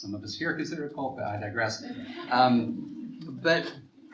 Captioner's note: students chuckle